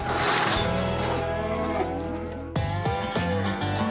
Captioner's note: mooing